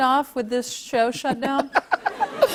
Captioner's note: laughter